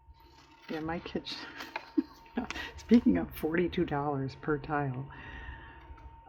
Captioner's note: laughs